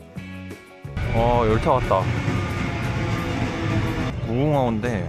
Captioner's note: A train pulls in right on cue